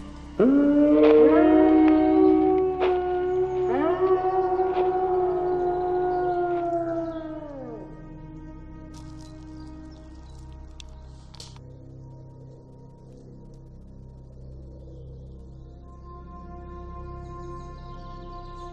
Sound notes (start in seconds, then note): 0.4 loud roar; 4.5 footsteps fade away; 7.6 howl fade away